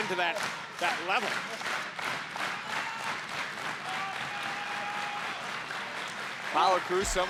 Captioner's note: crowd clapping